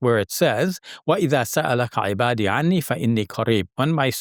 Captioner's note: speaking in foreign language